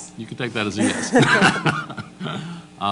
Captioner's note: laughs